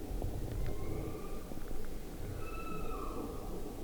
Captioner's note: elk bugling